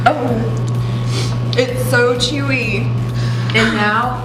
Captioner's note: gagging